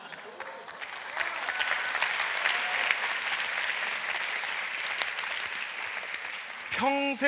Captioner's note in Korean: 박수와 환호